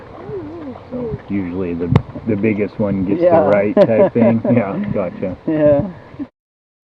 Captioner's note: laugh